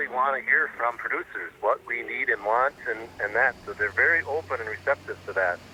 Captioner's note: laughs